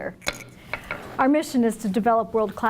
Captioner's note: gavel bangs